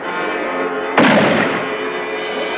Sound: gunshot

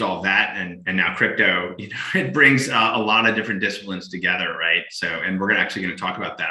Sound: chuckles

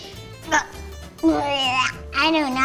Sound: gagging

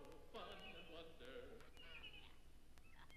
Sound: birds chirping; toys laughing

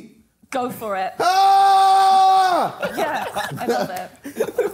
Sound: screaming

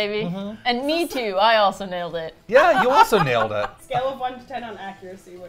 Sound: laughs

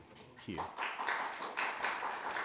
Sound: audience applauds

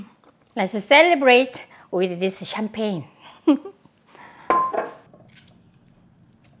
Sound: giggles

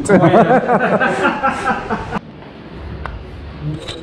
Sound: all three laughing

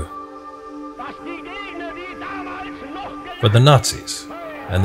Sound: Hitler shouting in foreign language

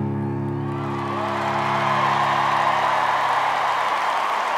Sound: people cheering; applause

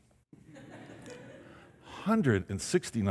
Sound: audience laughing

